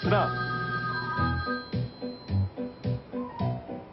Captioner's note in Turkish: Telefon çalıyor